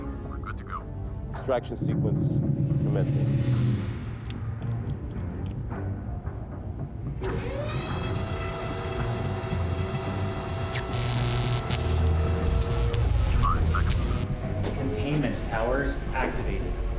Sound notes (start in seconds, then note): 10.7 electric zapping; 13.0 computer voice